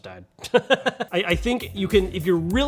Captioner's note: laughs